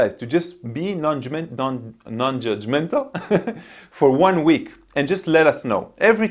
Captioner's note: laughs